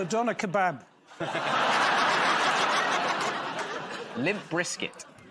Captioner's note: laughter